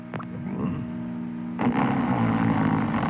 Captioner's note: snoring